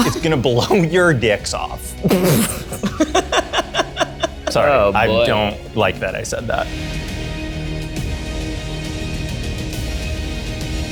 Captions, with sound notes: - It's gonna blow your dicks off. (all laughing) Sorry, I don't like that I said that. (dramatic music)